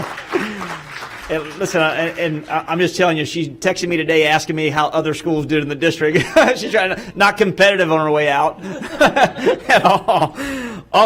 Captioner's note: applause